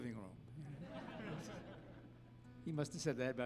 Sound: audience laughing

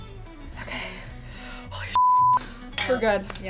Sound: beep

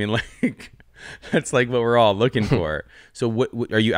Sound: laughs

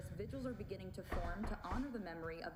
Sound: knocking at door

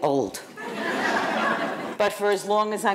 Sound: audience laughing

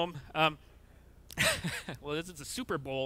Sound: chuckles

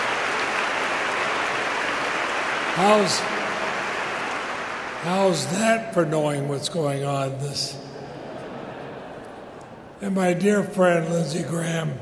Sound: laughter

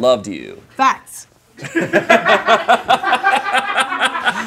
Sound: group laughing

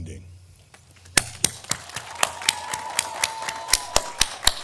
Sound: all applauding

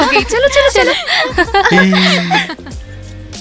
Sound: laughs

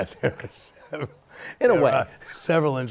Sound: laughter

